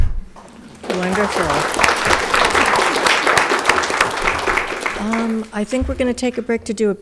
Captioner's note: audience clapping